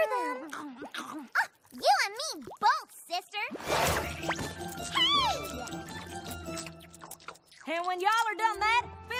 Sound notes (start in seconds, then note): 0.4 slurping